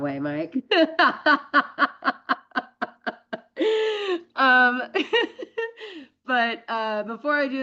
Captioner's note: laughs